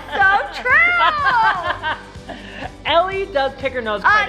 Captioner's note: laughing